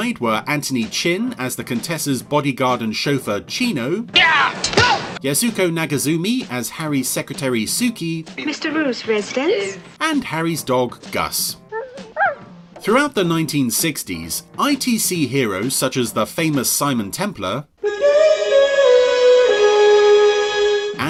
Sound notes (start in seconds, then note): 4.2 loudly yelling; 11.6 dog yelping; 19.0 suspenseful music